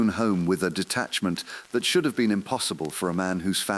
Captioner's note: exhale